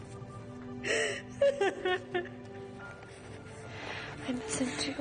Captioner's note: sobbing